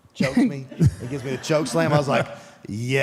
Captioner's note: group laughs